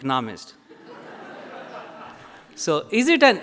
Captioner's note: audience laughs